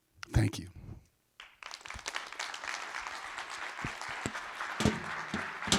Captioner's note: applause